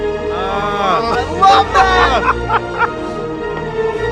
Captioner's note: laughs; gentle music